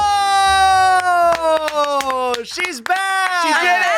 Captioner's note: both clapping